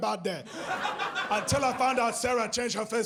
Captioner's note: audience laughs